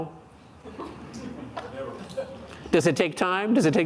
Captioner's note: audience laughing